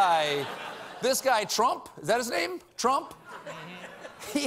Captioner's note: laughter